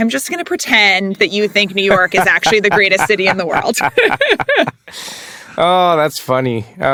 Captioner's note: laugh